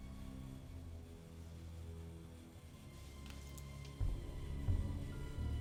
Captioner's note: electricity hissing faintly